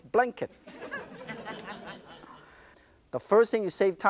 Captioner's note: audience laughter